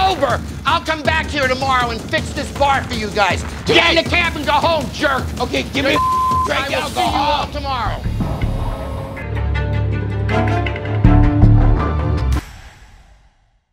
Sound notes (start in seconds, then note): 5.9 beep